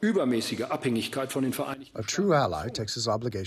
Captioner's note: through translator